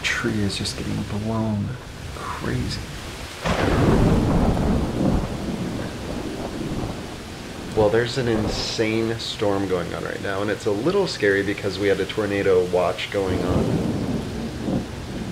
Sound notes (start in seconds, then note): 0.0 wind whistling; 4.0 thunder clapping; 6.4 rain splashing